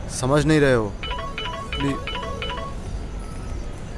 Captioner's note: Phone ringing